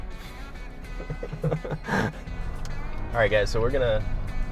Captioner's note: upbeat music; laughing